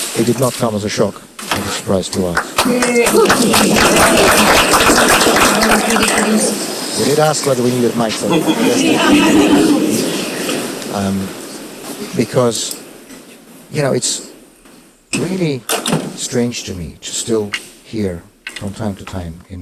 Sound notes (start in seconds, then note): 2.1 audience applauding